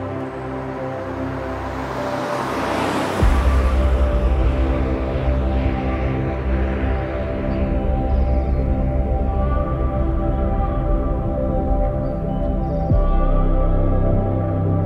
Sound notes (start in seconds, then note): 2.1 car zooming; 6.8 relaxing nature music